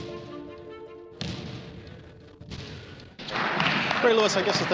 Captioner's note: uptempo dramatic music; basketball thudding